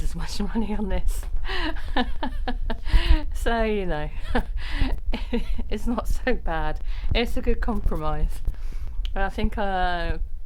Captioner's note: laughs